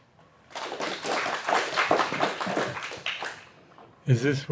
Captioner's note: applause